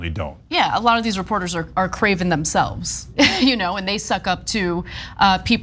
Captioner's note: laugh